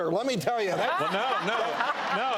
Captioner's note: audience laughs